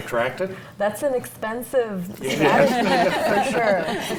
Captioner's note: panel laughs